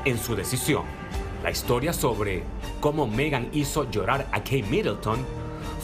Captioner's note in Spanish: AUDIO EN INGLéS